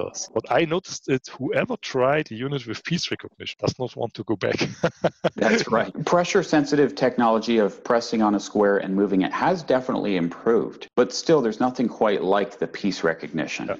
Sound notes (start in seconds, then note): 4.2 laughing out loud